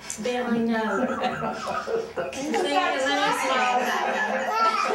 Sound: laughs

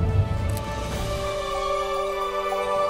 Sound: camera shutter; majestic music

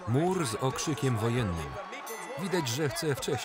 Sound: bell ringing

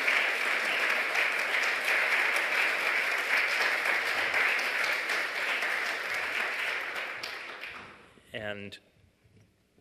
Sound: applause

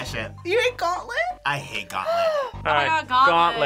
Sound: gasps

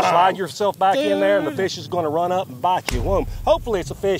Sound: none

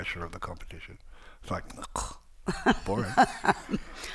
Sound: imitating choking

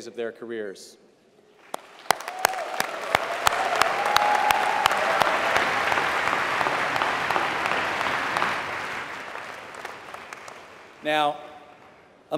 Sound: applause

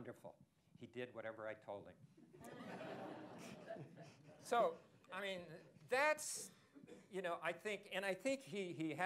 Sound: laughter

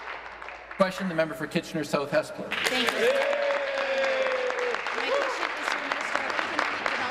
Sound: applause

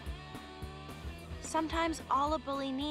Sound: none

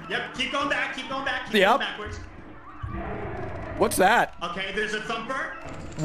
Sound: growls

